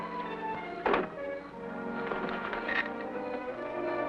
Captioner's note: window thuds; suspenseful music